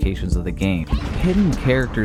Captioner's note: explosion sound effect